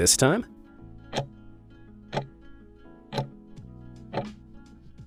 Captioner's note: timer ticking